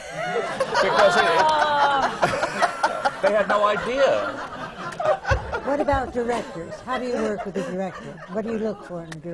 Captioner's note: laughter